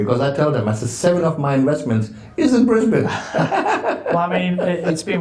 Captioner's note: laughs